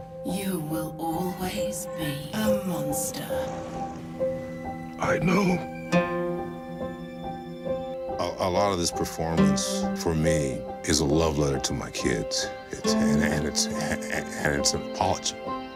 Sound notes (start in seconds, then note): 3.6 sad music; 5.2 in an emotional voice